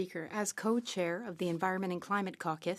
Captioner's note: speaking French